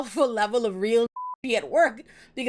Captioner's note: beep